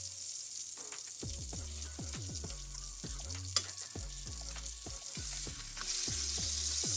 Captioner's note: sizzling